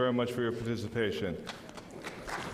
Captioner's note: applause